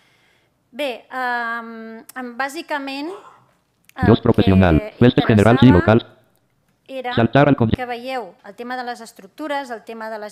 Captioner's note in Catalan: veu del lector de pantalla